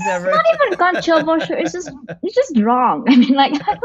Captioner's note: laughs